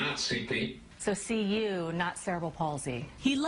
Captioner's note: voiceover